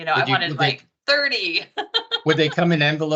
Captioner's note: laughing